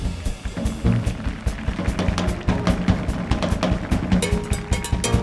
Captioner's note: audience applauding